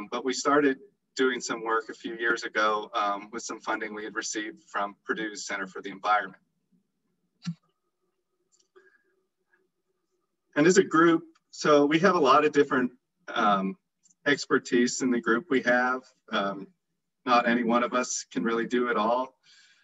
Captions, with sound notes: but we started doing some work a few years ago with some funding we had received from Purdue Center for the Environment. [clicking] So we have a lot of different expertise in the group. We have any one of us can really do it all,